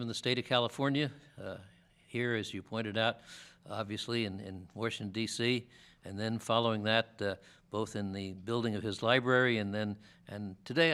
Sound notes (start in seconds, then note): none